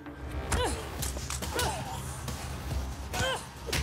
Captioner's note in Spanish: golpes